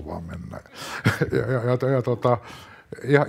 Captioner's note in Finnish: naurua